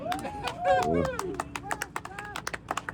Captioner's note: clapping